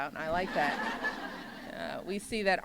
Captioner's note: laughter